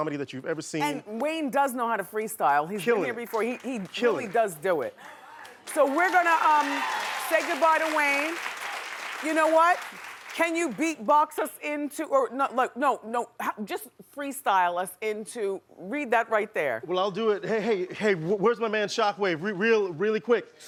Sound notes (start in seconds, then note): 5.2 cheering